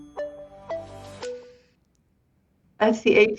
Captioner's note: polyphonic beeping